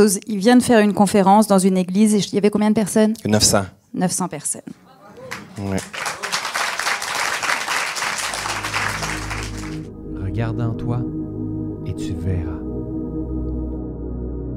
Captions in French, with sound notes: il vient de faire une conférence dans une église et il y avait combien de personnes? - 900 - 900 personnes. Bravo!!! [applaudissements]